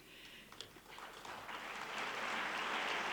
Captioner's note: clapping